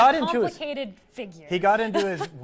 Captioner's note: laughs